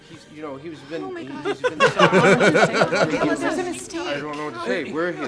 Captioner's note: laughs